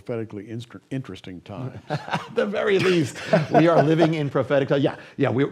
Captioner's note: laughs